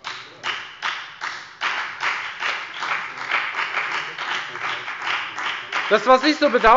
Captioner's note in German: Beifall bei der FDP